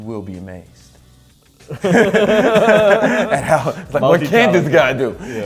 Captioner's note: laughing